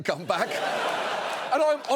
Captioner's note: audience laughs